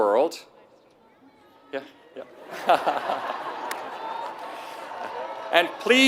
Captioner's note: laugh